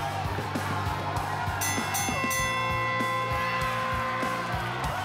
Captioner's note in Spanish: suena la campana; aplausos y exclamaciones